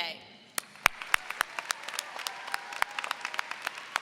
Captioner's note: audience applauds